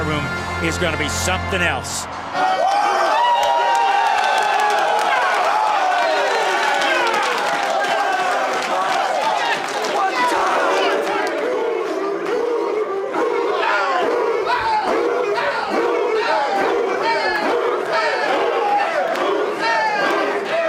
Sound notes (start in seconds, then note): 7.9 cheers and applause